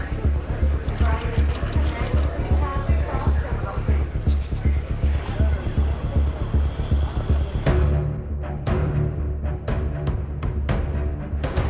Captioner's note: chatter